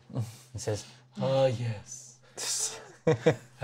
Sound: slow vampire accent; laughs

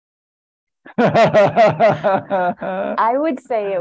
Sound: laughter

